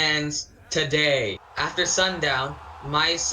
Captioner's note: crowd cheers